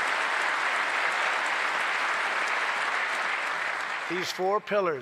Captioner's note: applause